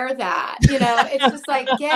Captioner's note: laughs